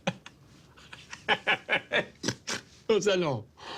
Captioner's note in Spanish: Carcajadas